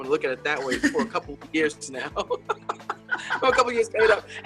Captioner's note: laughs